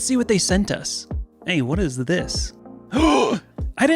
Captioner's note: Plant gasps